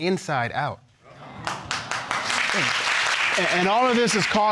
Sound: audience exclaiming and applauding

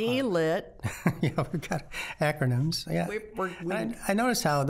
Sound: laughing

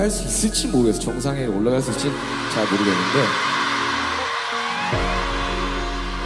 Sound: ARMYs shout

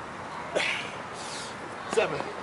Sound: grunts

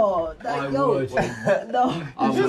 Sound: laughing

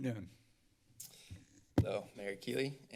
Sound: clicks tongue

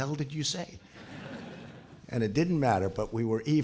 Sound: laughter

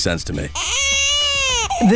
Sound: cries

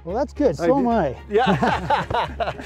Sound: laughter

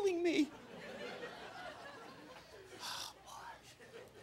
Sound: crowd laughing

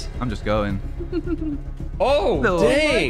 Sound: laughing

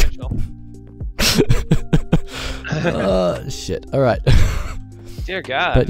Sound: both laugh

